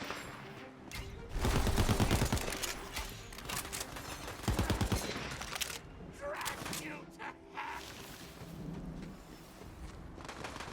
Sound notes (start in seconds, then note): 1.3 gun firing